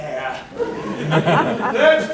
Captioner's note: laughter